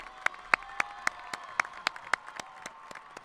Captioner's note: applauding